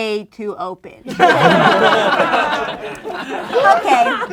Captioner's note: laughing